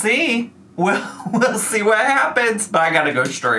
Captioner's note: chuckles